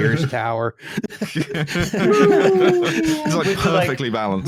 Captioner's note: laughter